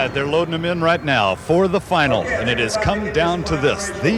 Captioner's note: voiceover